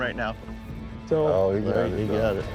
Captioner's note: all chattering